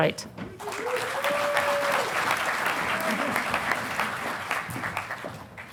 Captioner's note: audience applauding